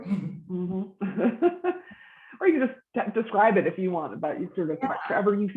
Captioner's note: laughs